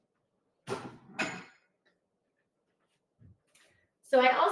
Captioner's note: cupboard door rattling